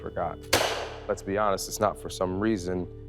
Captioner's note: gunshot banging